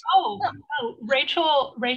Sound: laughs

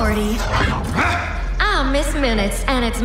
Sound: Loki grunts

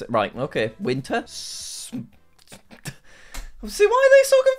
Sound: stammers

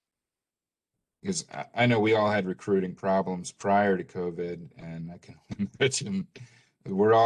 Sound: laughter

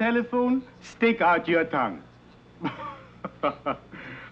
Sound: laughing

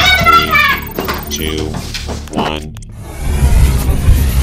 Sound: computer Voice; whirring and whooshing

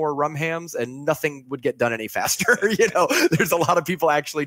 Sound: laughing

